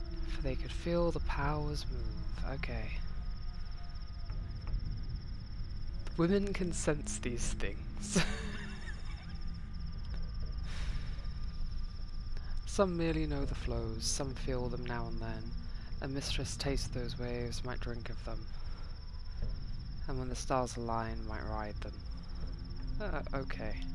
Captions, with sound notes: for they could feel the powers move okay women can sense these things [laughter] some merely know the flows some feel them now and then and mistress taste those waves might drink of them and when the stars are align might ride them okay